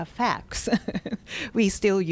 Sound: laughs

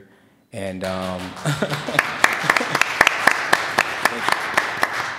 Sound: applause

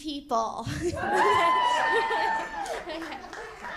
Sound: audience cheers

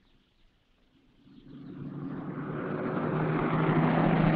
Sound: car rumbling

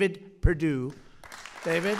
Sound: applause

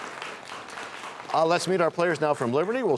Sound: applause

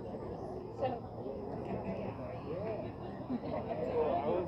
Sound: people murmuring

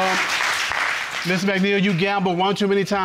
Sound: audience clapping

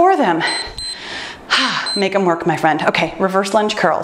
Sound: timer beeps

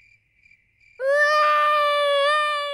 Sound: baby alexander crying

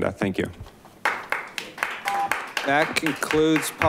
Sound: audience applauding

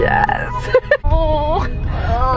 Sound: both laughing; both awing

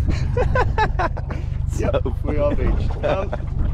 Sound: laughs

